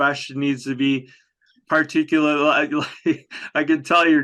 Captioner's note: chuckles